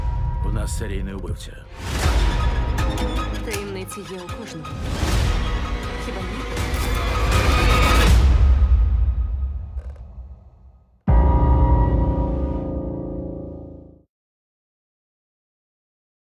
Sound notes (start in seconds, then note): 1.9 unsettling music plays; 6.7 music intensifies; 8.0 music fades; 9.6 floorboards creak